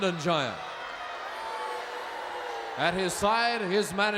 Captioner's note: crowd boos